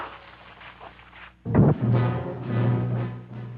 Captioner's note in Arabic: صوت غطاء المحرك; موسيقى مهددة